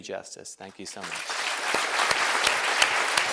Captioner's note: applause